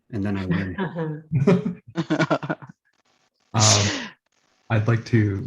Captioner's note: laughter